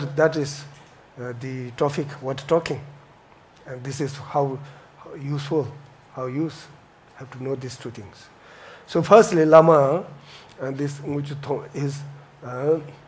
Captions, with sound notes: that is the topic want talking. This is how useful. How use have to know these two things. So firstly, Lama and this (foreign language),